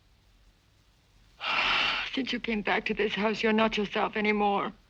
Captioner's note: sighs